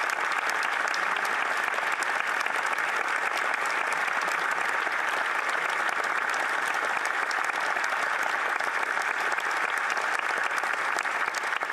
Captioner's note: applause